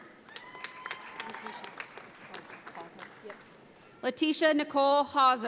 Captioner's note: audience applauds